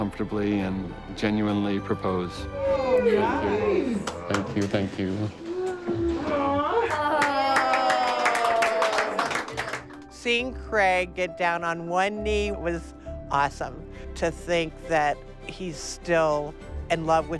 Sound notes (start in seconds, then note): 5.6 cheering